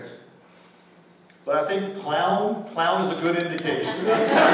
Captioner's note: laughter